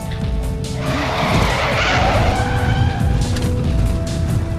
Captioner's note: car screeching